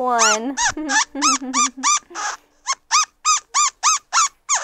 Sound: little monkey squeaks

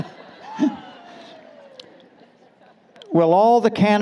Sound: laughter

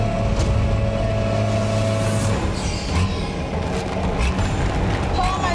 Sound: bulldozer rumbling; ominous music; dirt thudding

